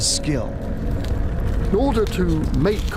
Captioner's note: fire blazing